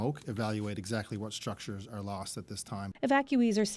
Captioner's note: none